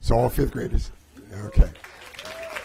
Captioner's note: applause